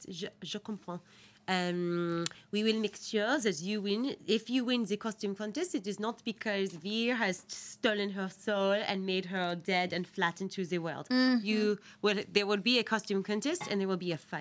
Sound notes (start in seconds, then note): 2.8 speaks foreign language